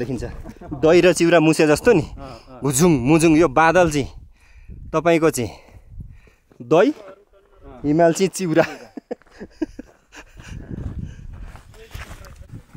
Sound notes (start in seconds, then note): 8.5 laughter